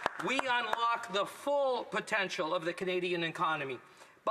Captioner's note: applause